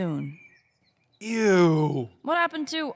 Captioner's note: egging on